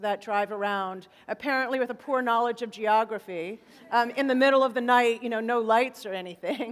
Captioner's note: laughter